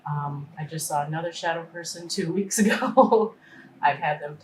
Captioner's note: laughing